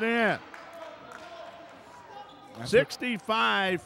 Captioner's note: yelling; clapping